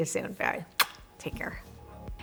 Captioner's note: loud kissing